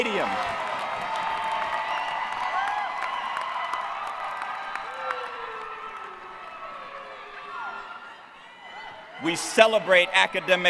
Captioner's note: cheering